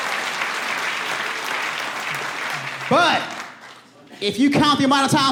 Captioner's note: audience laughing